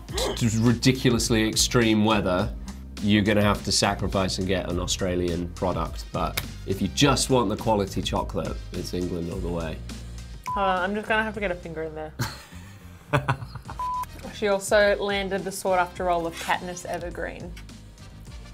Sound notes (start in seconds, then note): 13.1 laughs